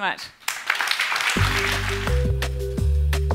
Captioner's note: applause